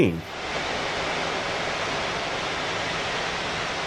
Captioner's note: aeroplane engine